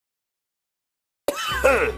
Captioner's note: laughs